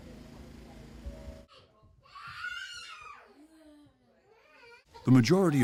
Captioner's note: child screaming